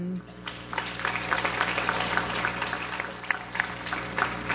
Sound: audience applauds

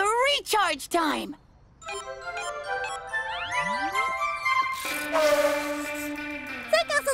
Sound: charger beeping; gentle music

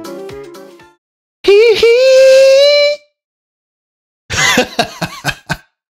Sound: chuckles

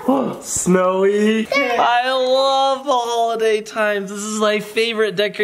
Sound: gasps

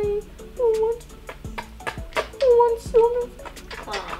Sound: lips smacking

